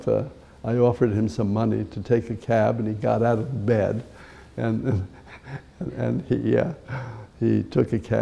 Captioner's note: chuckle